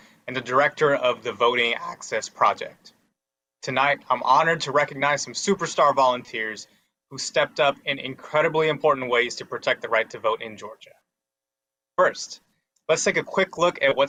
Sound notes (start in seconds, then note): none